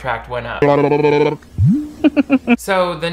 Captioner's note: babbling; face laughing